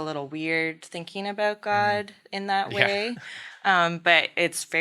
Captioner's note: laughing